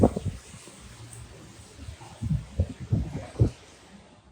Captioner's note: wind rustling